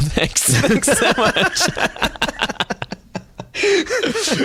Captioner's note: laughter